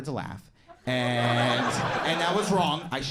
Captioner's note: crowd laughs